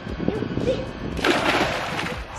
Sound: splashing

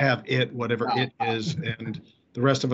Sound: chuckles

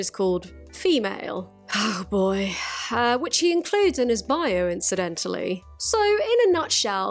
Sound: sighs* oh boy

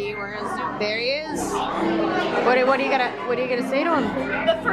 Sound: none

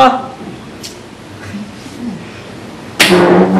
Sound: clicks tongue, sighs

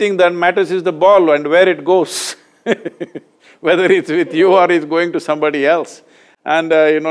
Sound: laughs

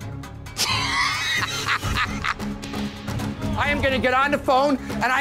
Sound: laughs

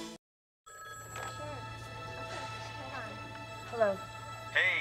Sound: phone ringing

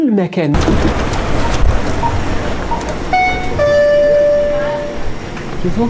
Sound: beeping sound

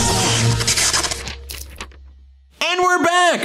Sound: electricity crackles loudly; paper flapping softly

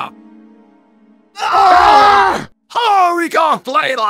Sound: screaming ensues

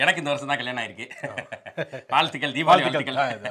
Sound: accomplished laughter

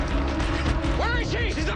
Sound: police radio chatter

